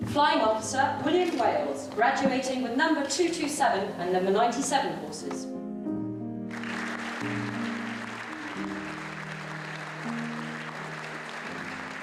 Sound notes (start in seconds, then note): 6.4 calm music; 6.5 audience applauding